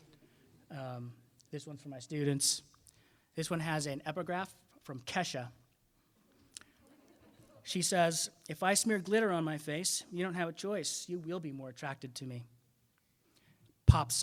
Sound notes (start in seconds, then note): 0.2 audience chuckling; 6.8 audience laughing